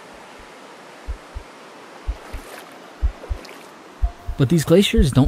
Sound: heart beating

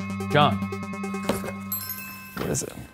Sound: bell ringing

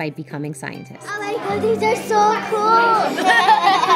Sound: students laugh

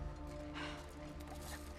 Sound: sigh

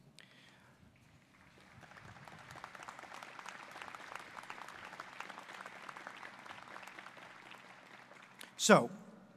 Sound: applause

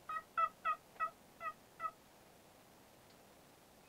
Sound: turkey yelping

